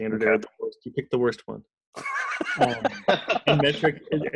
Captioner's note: laughs